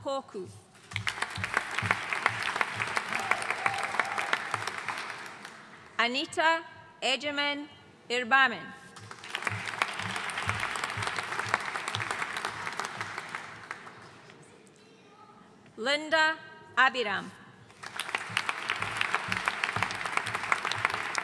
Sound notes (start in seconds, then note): 0.9 audience cheering and applauding; 9.0 audience applauding; 17.7 audience applauding